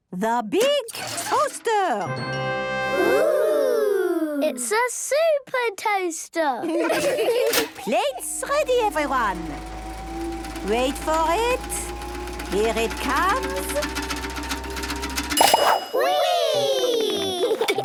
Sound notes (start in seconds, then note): 7.7 clicks; 11.0 super toaster vibrating; 15.5 pings